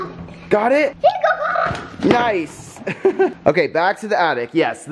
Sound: chuckles

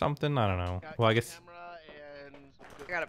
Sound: pat

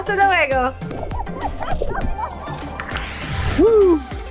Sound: laughs

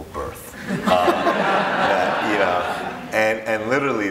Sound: audience laughing

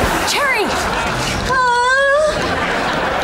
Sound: groaning

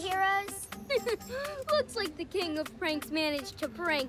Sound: chuckles

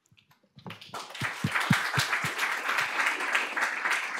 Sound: applause

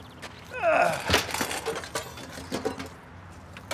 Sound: groaning

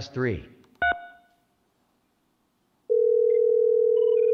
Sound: key tone; phone rings

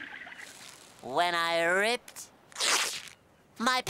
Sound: ripping

